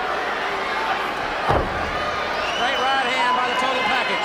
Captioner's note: blows thudding